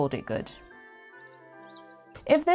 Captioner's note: birds singing